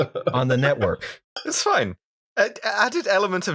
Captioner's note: laughter